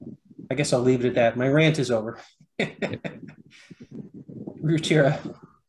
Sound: laughs

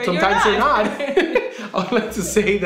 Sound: laughing

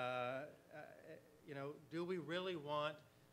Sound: none

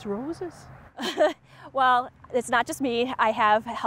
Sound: chuckles

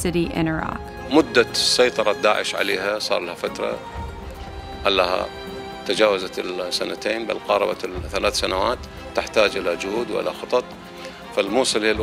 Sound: speaking Arabic

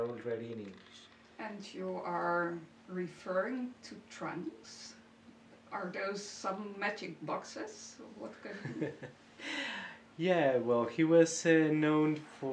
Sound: chuckling

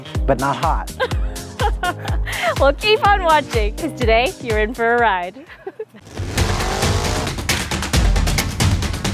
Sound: laughs

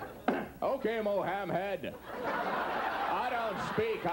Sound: audience laughs

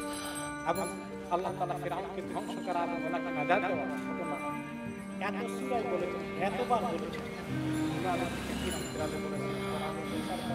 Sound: islamic sermon in the background

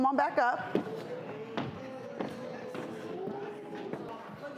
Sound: audience boos

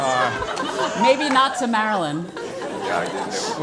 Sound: laugh

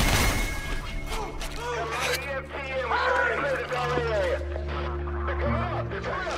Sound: man over radio

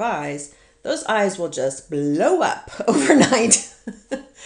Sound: laughs

